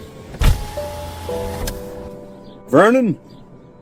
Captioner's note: window whirring open